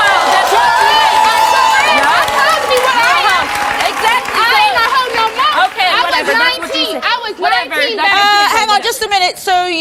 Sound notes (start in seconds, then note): 0.3 audience applauds; 1.8 yelling